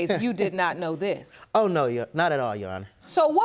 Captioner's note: laughing